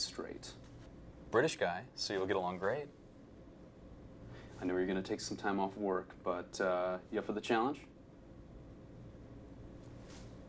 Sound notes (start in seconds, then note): none